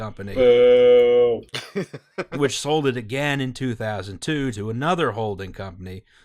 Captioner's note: laughter